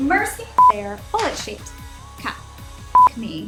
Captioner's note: tone beeping